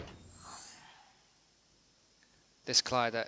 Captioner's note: silence